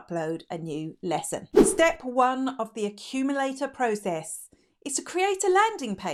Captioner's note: air whooshing